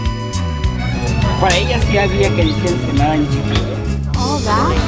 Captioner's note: speaking Spanish